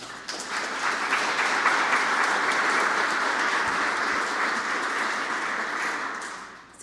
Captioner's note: applause